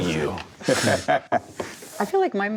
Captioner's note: laughing